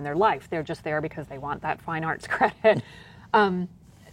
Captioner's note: laughter